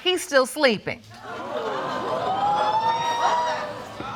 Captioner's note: audience gasps